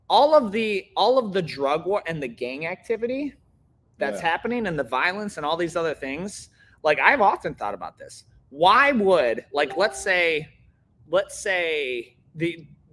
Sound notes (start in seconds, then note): none